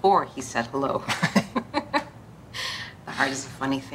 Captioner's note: both laughing